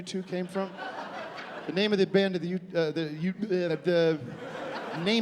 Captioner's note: stammering